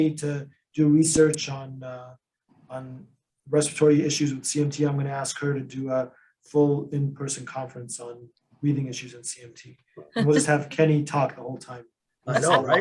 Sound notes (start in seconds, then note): 10.1 laughs; 12.3 laugh; 12.3 laughs